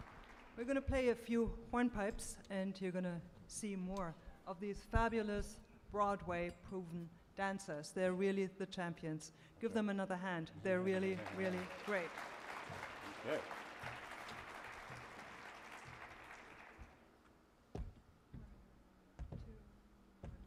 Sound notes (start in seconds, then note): 12.8 audience applauds